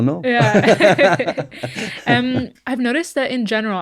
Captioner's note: laughing